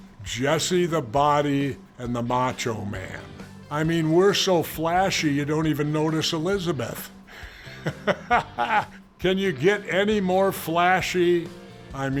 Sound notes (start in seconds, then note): 7.2 Jesse laughing